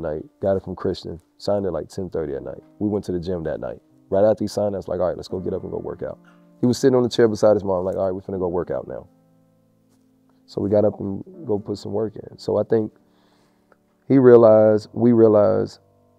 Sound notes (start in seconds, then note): none